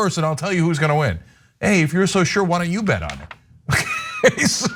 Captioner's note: laugh